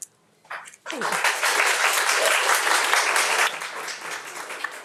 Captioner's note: audience applauds